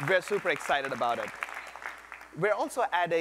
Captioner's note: applause